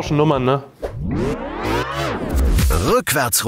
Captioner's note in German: Verzerrte Klänge